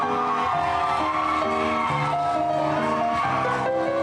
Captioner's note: cheering